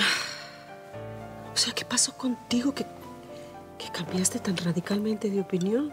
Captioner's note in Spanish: suspiros